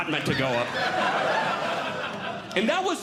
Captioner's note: audience Laughing